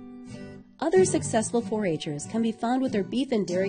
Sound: voiceover

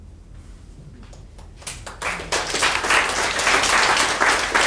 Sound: audience clapping

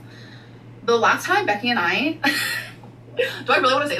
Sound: laughing

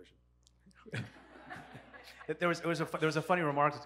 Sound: audience laughs

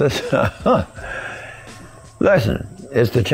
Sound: laughs

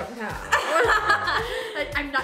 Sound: laughs

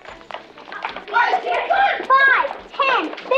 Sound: children shouting

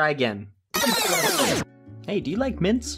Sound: rewind sounds

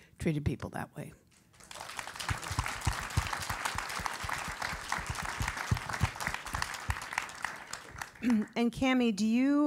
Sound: applause

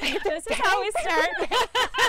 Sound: laughter

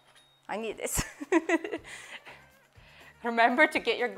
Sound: laughs

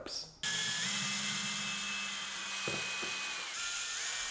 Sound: drilling

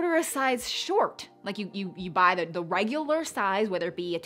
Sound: stammers

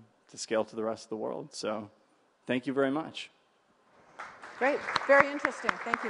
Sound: applause

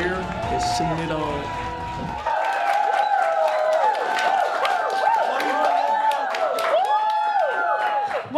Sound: applause

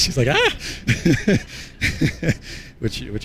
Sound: laughs

